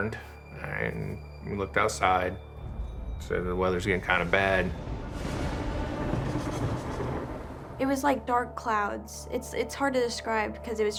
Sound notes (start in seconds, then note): 6.7 thunder crashing